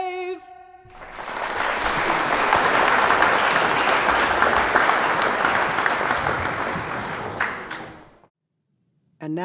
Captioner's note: applause